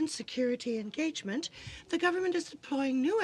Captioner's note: speaking in french